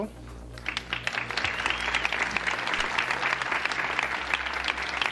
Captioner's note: audience applauding